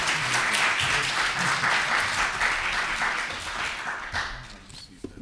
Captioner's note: audience applauding